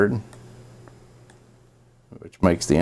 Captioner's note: mouse clicking